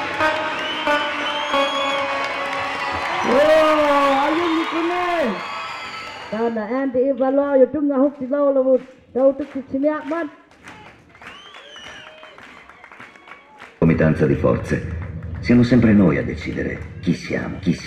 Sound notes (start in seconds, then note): 0.0 cheers and applause; 2.7 cheers and applause